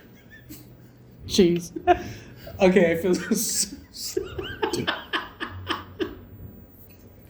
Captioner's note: laughing uncontrollably